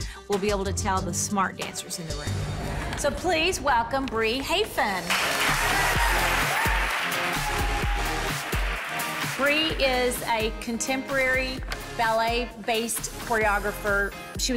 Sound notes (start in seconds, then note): 4.9 upbeat music; 5.0 cheering and clapping